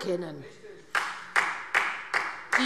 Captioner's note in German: Beifall Freie Demokraten